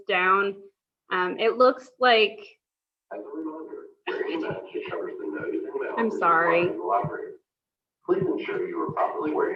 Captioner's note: announcement playing in background